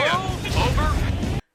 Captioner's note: door clanks; alarm blares